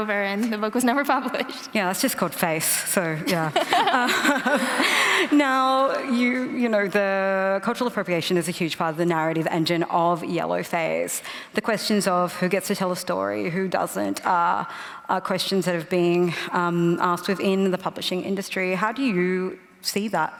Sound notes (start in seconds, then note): 3.2 laughter